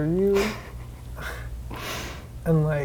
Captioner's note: quiet laughing